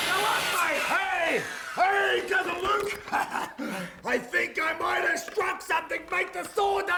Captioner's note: laugh